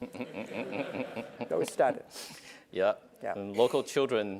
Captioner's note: laugh